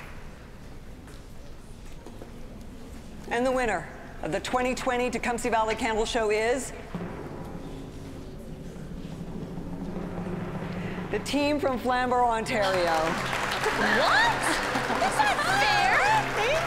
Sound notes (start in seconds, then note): 6.8 drum roll; 12.5 audience applause